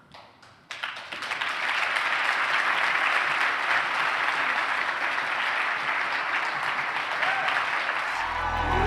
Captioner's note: applause